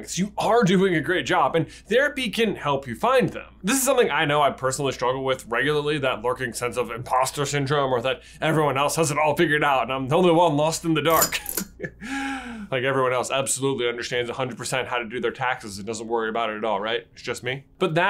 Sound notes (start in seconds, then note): 11.1 lightbulb chain pulled